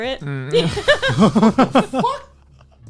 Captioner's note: laughing